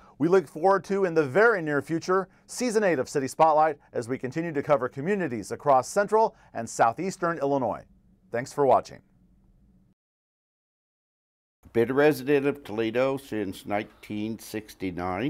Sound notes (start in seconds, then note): none